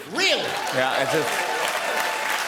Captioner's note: applause